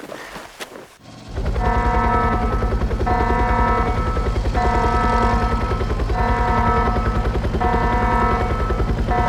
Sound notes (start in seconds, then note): 1.6 alarm